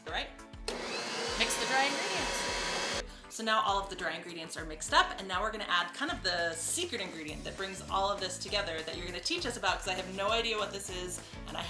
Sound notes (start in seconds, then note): 0.6 mixer revs